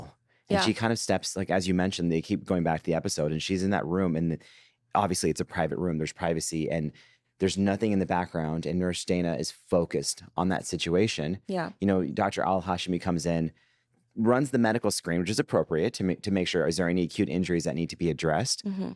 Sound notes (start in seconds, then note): none